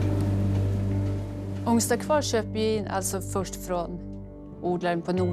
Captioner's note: speaking Swedish